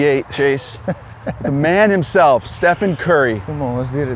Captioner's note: laughs